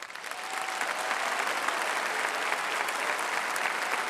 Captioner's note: applause